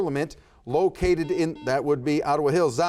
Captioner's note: buzzer buzzes